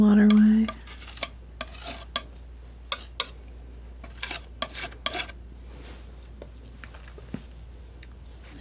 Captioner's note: scratching